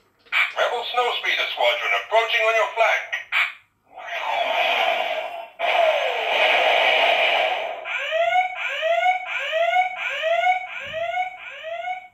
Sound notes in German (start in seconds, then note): 3.9 Battle Sounds; 7.9 Alarm Siren Sounds